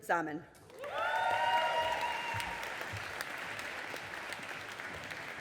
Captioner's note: audience applauding